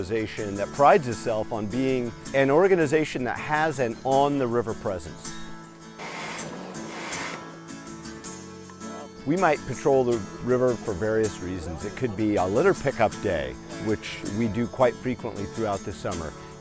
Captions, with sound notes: that prides itself on being an organization that has an on-the-river presence. (air pumping) We might patrol the river for various reasons. It could be a litter pick-up day, which we do quite frequently throughout the summer.